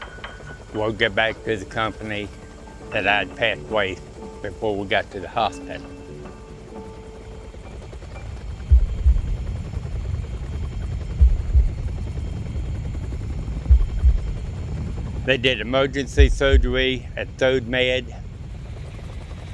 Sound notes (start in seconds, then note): 8.1 sound of helicopter blades rotating